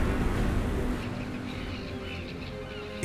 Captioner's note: seagulls squawking